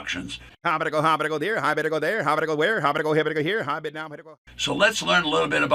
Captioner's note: auctioneer vocalizes rapidly